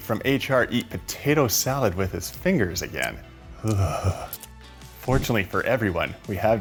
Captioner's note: shudders